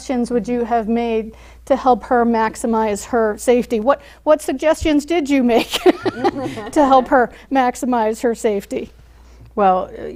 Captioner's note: laughs